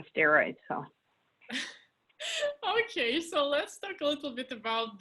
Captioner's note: laughs